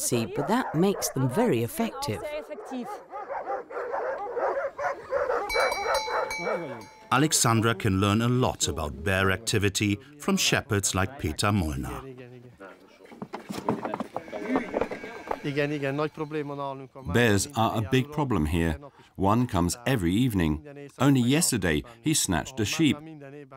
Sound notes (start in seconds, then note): 5.4 bell dinging; 11.5 speaking in foreign language